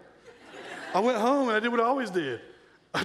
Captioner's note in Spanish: la audiencia se rie